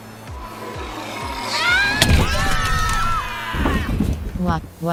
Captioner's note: screaming